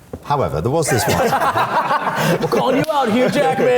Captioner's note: group laughing